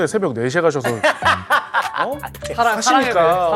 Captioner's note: hahaha